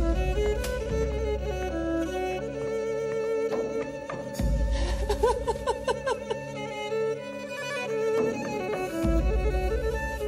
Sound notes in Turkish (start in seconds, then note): 5.0 Ağlıyor